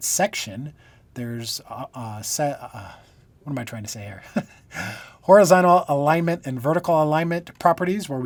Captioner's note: laughter